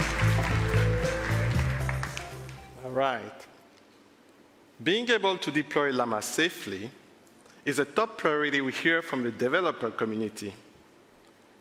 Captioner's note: cheers and applause